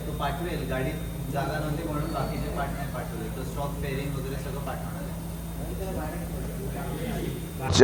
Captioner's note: background chatter